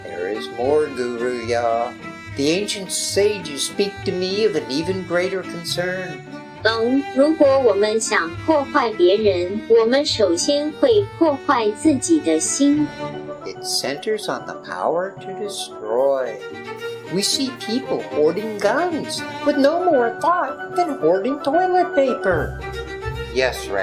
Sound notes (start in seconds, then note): 7.5 speaking in Traditional Chinese